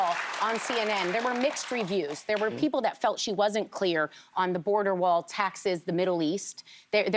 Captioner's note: applause